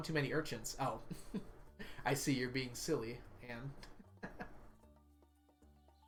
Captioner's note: laughs